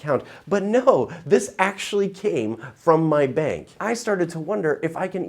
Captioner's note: chuckles